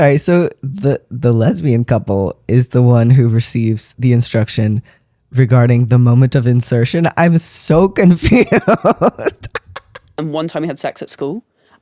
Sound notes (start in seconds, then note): 8.2 laugh